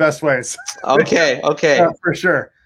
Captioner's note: chuckles